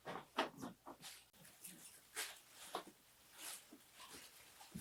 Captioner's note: wrapping paper rustles